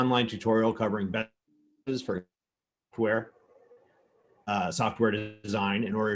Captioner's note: audio distorts